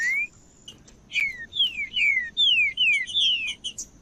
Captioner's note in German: trinca ferro cantando